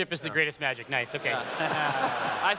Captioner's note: laughter